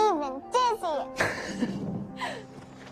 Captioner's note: laughs